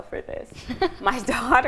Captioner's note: both laughing